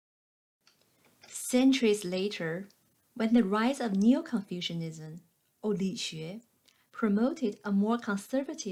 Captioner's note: click